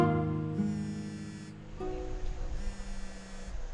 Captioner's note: phone buzzes